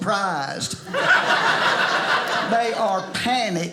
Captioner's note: audience laughing